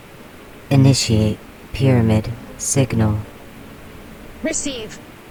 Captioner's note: The Buzzing voices; female voice, soprano